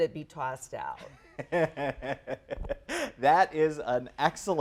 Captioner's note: laughs